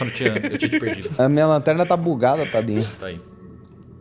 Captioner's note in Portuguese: Risos